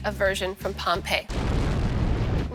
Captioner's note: blasting